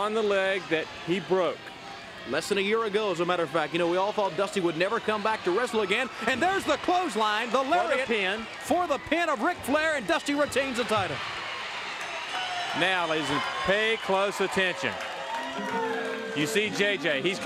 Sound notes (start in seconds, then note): 11.8 crowd cheering